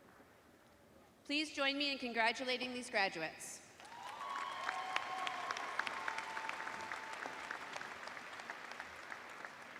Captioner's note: cheers and applause